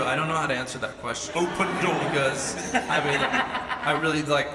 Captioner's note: laughs